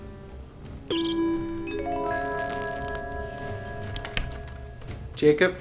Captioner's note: detector chimes